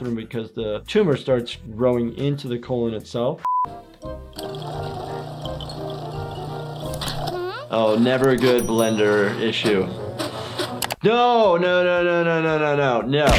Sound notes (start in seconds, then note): 3.4 beep; 4.3 blender whirring